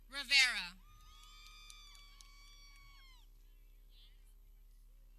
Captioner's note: people cheering